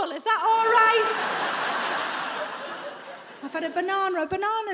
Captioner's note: audience laughing